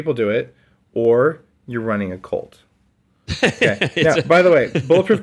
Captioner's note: laughs